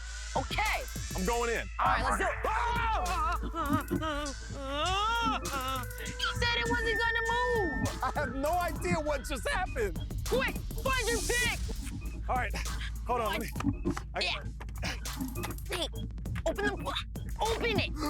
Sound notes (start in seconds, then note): 3.9 whimpering